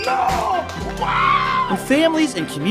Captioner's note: screams